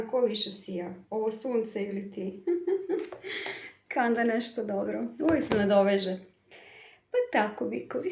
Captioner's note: laughs